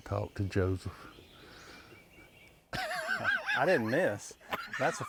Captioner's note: laughs